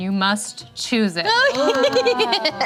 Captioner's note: laughing